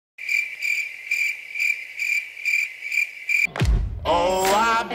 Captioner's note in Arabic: صراصير الليل تزقزق